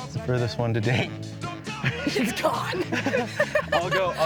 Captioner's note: laughter